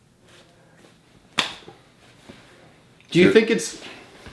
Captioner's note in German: Handflächen klopfen